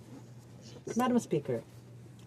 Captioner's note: speaking French